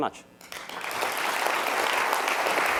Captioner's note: applause